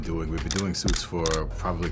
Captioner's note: camera clicks